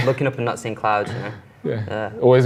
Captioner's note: giggles